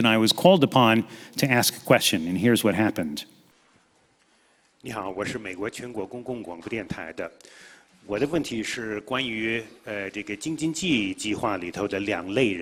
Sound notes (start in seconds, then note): 5.4 speaking in foreign language